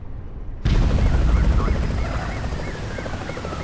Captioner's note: police sirens